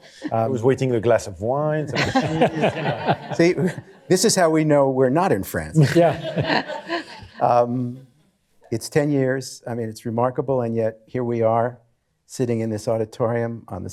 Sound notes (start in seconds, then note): 5.8 laughter